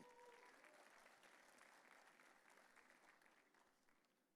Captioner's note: audience cheering